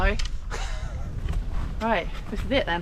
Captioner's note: laughs